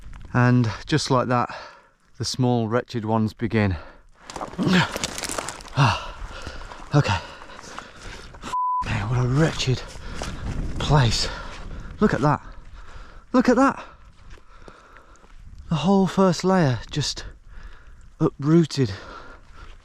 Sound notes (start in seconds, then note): 5.6 gasping